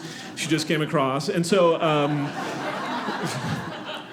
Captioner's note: audience laughing